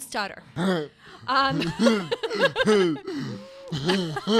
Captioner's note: laugh